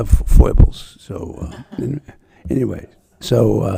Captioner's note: audience laughing